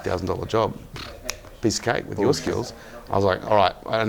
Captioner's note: snap